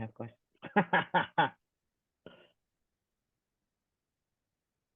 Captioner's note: laughing